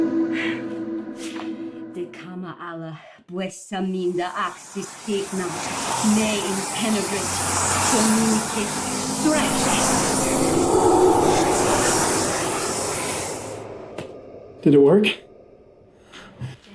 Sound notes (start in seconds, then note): 2.1 chanting in foreign language; 6.1 demons whispering